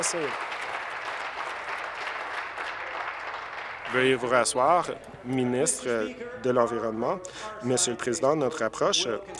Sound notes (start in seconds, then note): 0.0 applause